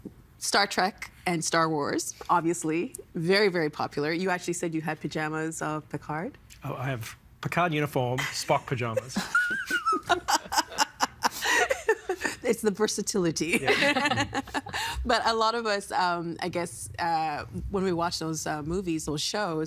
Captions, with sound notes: Star Trek and Star Wars, obviously, very, very popular. You actually said you had pyjamas of Picard? Oh, I have Picard uniform, Spock pyjamas. (Laughing) It's the versatility. (Laughing) But a lot of us, I guess, when we watch those movies, those shows,